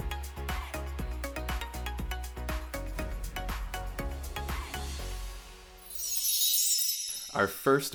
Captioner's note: chime sound